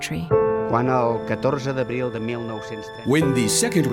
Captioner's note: speaking in foreign language